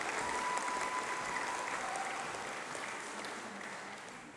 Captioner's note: applause